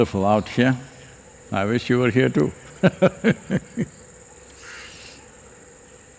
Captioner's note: laughs